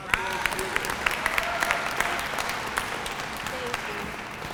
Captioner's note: applause